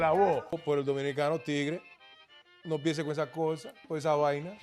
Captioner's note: speaking Spanish